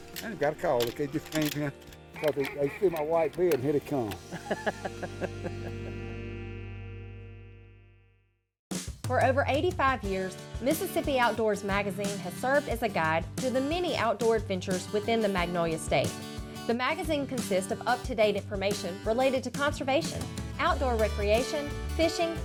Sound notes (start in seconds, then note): 4.2 laughter; 9.0 lively music